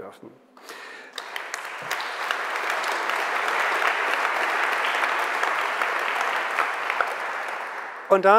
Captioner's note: general applause